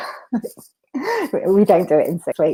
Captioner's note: laughs